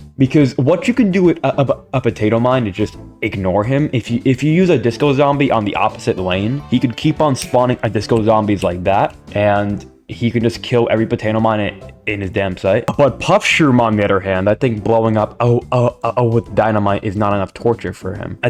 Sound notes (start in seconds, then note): 8.9 snaps